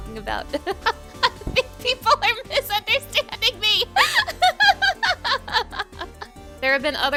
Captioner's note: laughing